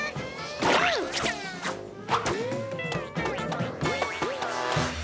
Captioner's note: balls bouncing off walls